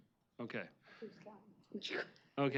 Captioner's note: indistinct chatter